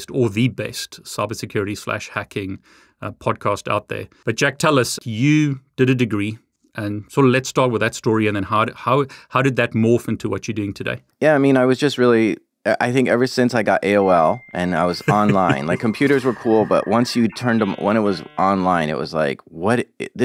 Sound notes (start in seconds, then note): 14.9 laughs; 15.0 modem pinging